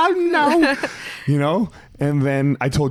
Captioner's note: laughs